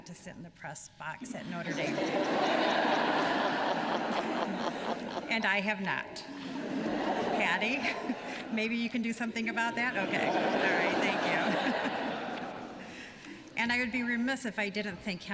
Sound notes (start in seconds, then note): 1.3 laughter; 12.3 laughter